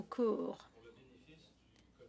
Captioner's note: speaking French